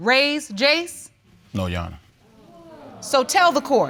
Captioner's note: audience members exclaim